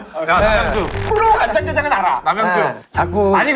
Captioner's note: gritted teeth